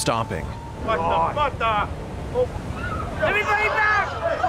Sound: speaking in foreign language

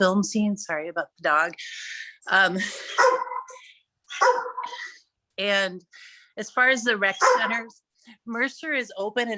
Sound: laughter

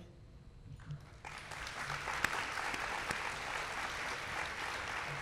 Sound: audience clapping

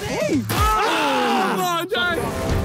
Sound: players shout

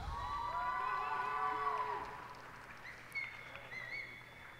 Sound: cheers and applause

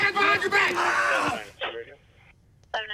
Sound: screaming

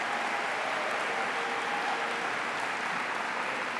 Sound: applause

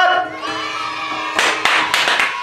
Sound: cheering noises

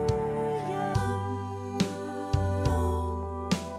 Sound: playback of recorded ♪ Hmmmmm, muummmm

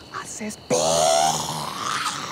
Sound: whispering

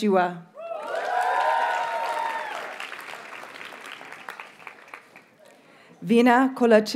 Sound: audience cheers and applauds

